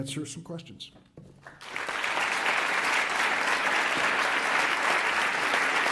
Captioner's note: audience applauds